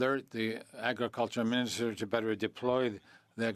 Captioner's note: speaking French